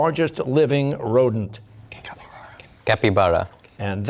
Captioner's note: whispering